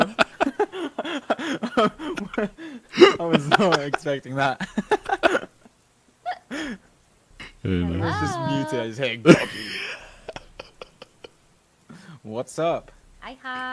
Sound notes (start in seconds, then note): 9.2 chuckles